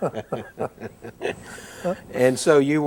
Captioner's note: both laugh